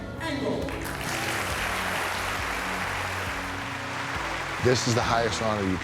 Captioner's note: audience clapping